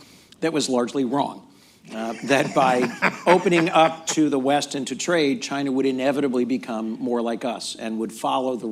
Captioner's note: laughter